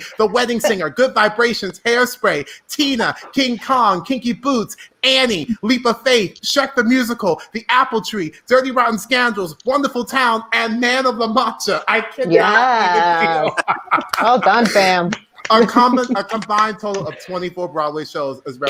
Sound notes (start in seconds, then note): 13.9 laughing loudly